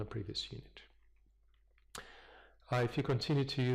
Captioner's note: pause